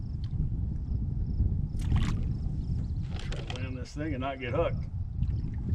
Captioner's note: fish splashing